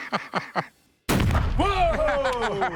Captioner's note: laughter; gunshot; laughter